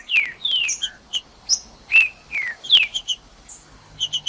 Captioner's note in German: trinca ferro cantando